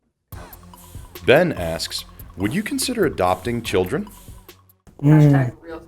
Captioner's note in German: Voice-over